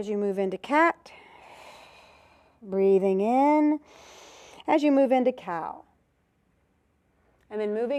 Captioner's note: breath sound